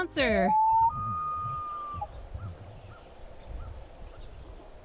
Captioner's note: loon calling out surrounded by forest sounds